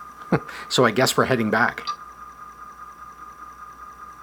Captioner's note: chuckles